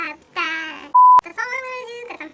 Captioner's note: beep